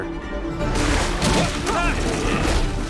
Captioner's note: both grunt